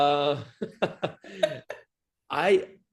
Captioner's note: laugh